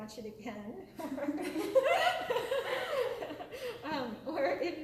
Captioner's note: laughter